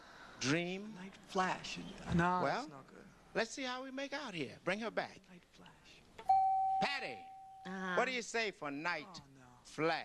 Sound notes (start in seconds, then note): 6.3 beep